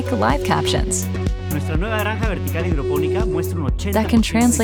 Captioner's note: speaking Spanish